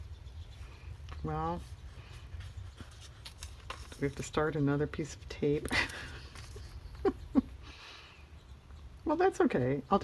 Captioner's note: laughs